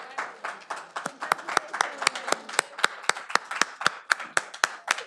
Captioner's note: all applauding